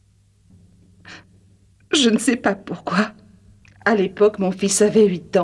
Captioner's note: sighs